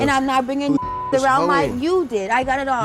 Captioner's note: beep